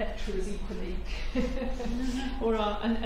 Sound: laughter

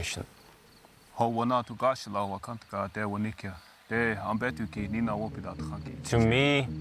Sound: speaking in foreign language

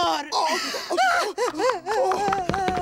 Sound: Cindy leaves crying

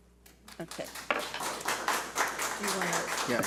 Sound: audience applauds

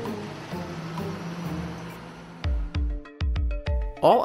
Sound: truck engine roaring; upbeat music

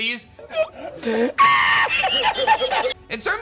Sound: laughs

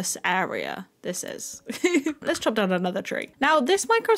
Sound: laugh

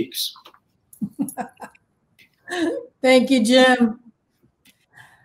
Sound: chuckles

